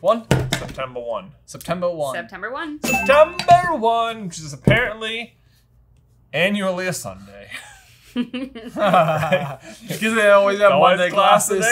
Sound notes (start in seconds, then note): 2.8 bell dings; 8.2 all laugh